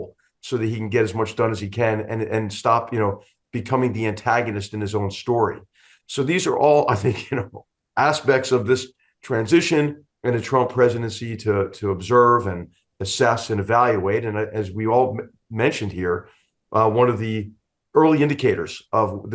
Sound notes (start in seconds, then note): 6.9 laugh